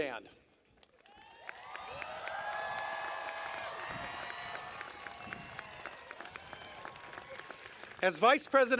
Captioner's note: applause